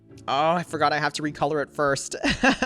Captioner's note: laughs